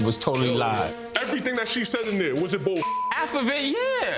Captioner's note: beep